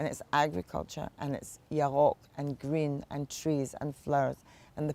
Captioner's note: hebrew